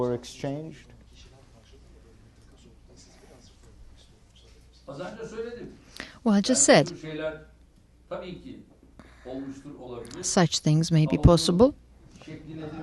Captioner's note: through translator